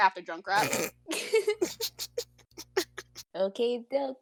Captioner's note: laughter